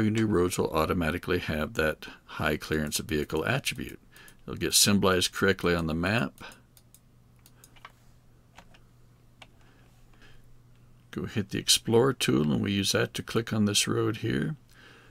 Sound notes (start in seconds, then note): 8.5 keyboard clicking